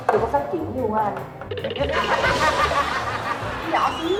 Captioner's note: laughing